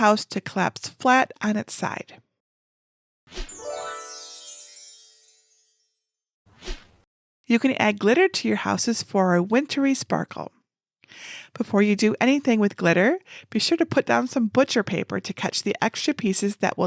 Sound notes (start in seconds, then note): 3.4 magic sparkling